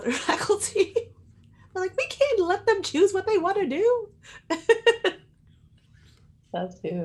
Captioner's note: laughs